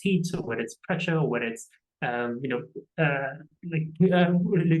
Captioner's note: stammering